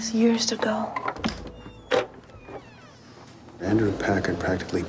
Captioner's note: door creaking